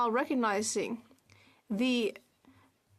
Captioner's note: speaking French